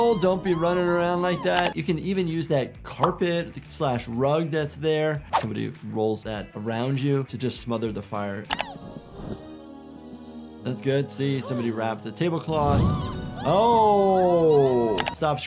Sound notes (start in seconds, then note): 1.5 mouse clicks; 4.7 graphic whooshes; 8.5 mouse clicks; 12.6 Giggles and Petunia scream; 14.9 mouse clicks